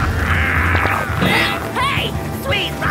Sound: laughing; honk

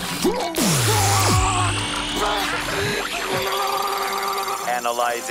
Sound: screaming

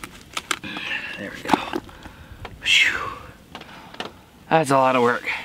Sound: sighs

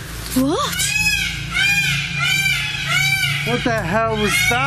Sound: peacocks squawking

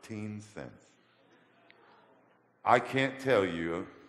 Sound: audience gasps

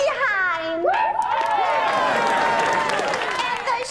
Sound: cheering

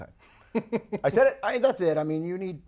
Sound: laughs

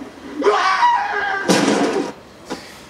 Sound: screams

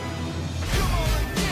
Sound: lightsabers whooshing

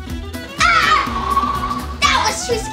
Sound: monster laughs; assistant screams

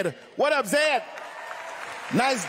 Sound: cheering; applause

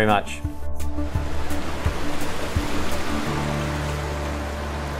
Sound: rushing water

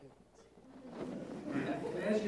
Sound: laughter

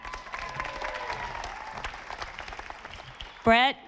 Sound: audience applauding

